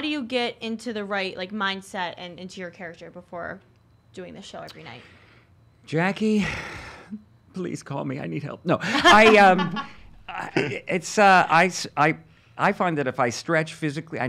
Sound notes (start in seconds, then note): 8.9 laughing